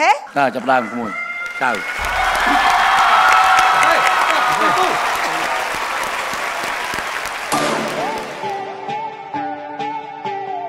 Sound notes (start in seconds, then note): 0.6 cheer and applause